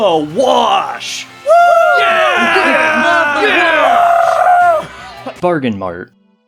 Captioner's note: various yeahs and woohoos